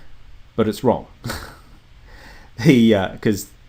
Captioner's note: chuckles